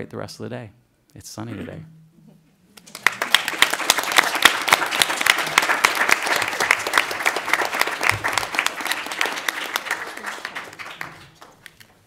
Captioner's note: applause